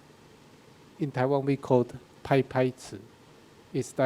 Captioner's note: speaking in a foreign language